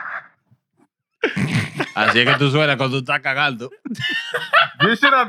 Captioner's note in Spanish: Riendo; Hablando en idioma extranjero